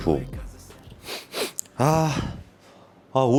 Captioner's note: sniff sniff